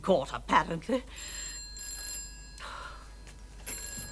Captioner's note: phone ringing